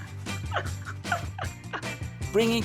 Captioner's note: laughing